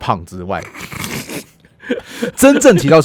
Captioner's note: he laughs first